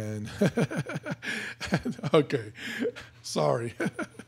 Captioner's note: laughing